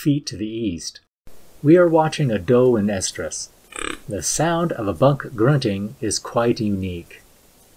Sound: grunt

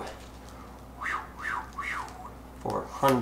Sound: exhaling sharply

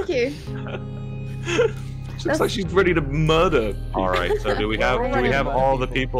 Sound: laughs

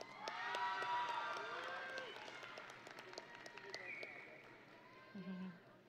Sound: audience and graduates cheering

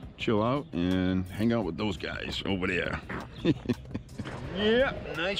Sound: laughing

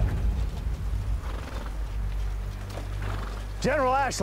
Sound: horses bluster

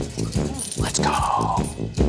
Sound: whispers

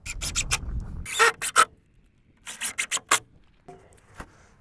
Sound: drill whirring

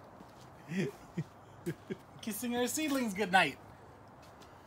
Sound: laughing

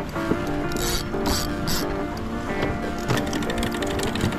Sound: reel whirring

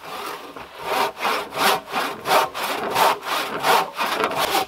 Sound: saw grating

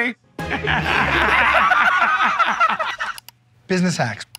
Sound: laughter

